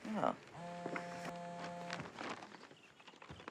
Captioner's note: scoffs; cell phone buzzes